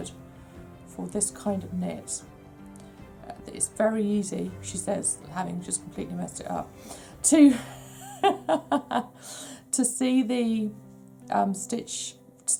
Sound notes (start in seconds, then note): 7.6 laughs